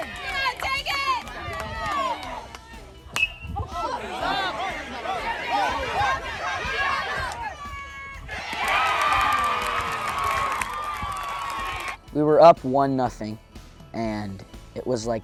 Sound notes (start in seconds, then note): 4.8 applause; 4.8 baseball hit